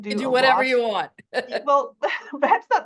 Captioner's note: laughs